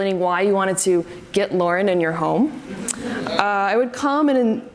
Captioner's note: audience laughs